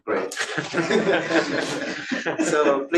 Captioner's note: laughter